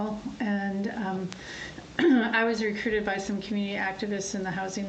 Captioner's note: clears throat